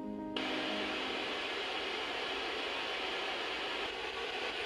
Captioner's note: static crackling